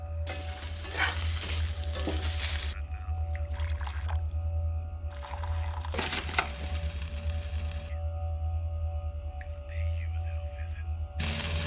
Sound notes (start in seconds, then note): 0.7 food simmering